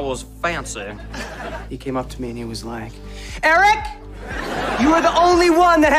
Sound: shouting

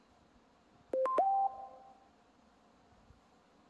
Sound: phone ding

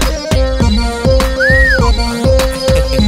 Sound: whistles

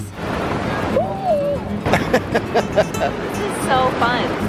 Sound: laughter

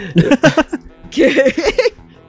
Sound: giggles

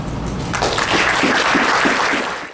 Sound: applause

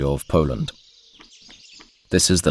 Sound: sounds of nature

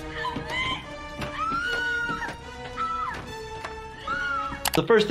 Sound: screaming

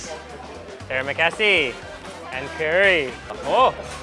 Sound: speaking in foreign language

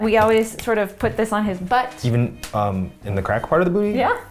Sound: none

